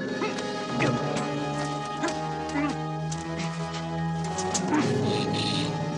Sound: struggling; grunting

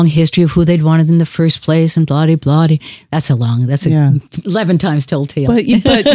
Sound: laughs

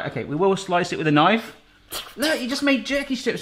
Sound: imitates knife whooshes

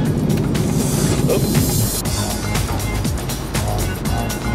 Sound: air whooshing

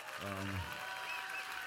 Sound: cheers and applause

